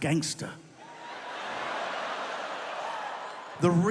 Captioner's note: audience laughs